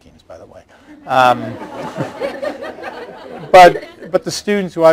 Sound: laughter

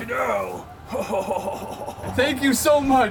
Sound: Mad Santa Laughs

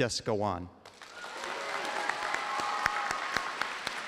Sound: applause

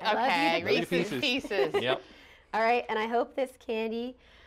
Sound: laughter

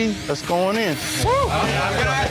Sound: cheers

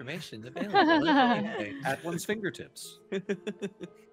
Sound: group chuckling; laughing

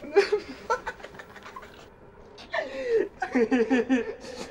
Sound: both laughing

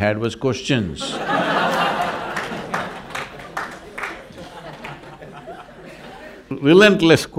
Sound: laughter/Applause

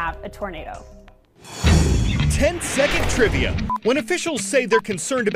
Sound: voice-over

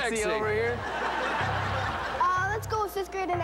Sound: laughter

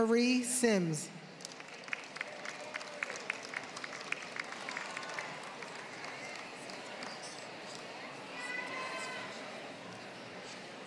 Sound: applause

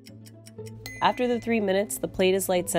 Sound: clock ticks; quiet, rapid music; clock dings

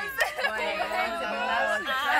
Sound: all exclaim; laughter

